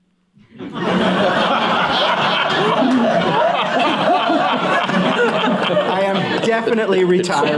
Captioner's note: laughter